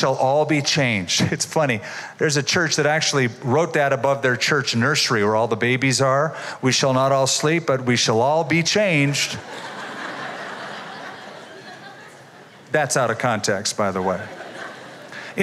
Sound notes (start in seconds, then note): 9.4 laughter